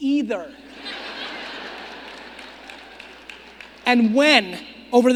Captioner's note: audience laughing